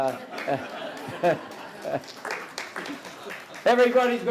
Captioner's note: audience Laughter and Applause